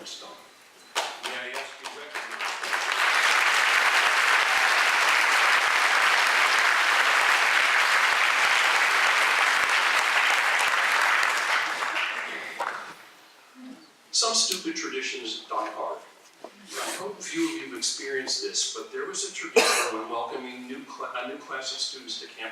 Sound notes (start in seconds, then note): 2.8 applause